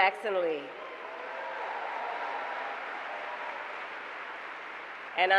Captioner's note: applause